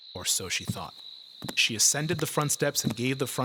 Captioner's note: footsteps approaching